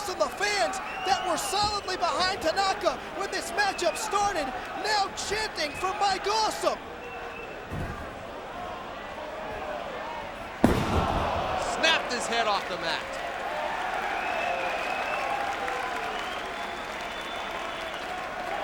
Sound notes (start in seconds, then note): 10.6 Tanaka slams; 13.5 crowd cheering